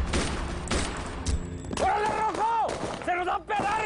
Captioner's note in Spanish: Disparos